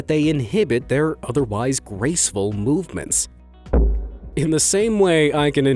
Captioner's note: thumping